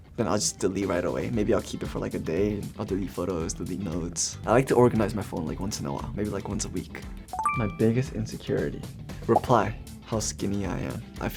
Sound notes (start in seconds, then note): 7.4 beeps